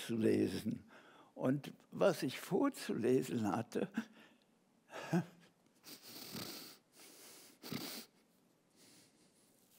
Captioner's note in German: atmet schwer